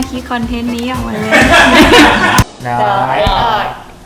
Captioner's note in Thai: หัวเราแบบสะใจ